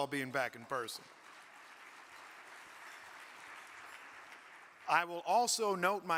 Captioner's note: audience clapping